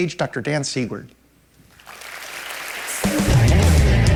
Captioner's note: applause